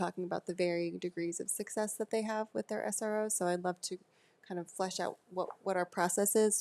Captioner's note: none